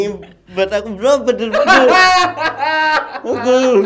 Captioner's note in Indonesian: ketawa